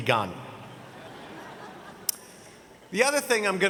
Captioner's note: audience laughing